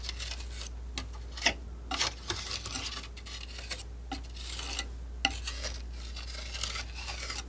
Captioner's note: scratching